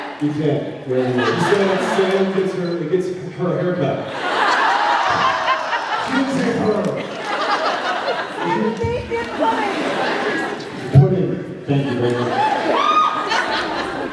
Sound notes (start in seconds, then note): 4.1 laughs; 11.7 laughs, cheers